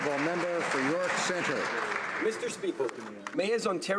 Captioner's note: applause